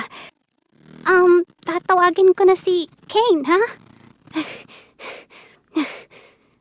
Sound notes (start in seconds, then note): 4.3 Pomni panting